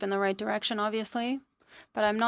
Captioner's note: speaking in French